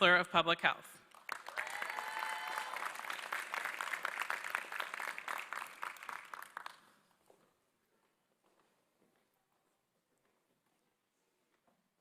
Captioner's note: applause